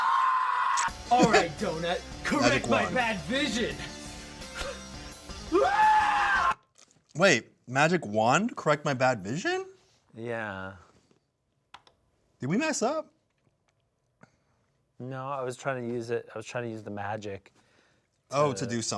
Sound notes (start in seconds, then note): 0.0 screams; 2.0 intense music; 5.4 screams